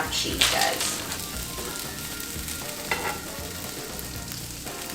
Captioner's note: sizzling sound